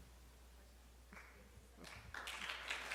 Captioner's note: audience applauds